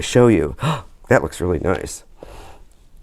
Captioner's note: gasps